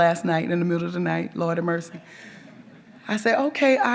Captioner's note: audience members chuckle